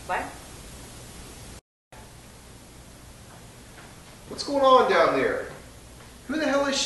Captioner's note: running feet